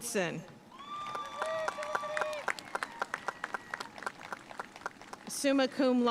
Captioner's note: audience cheering and applauding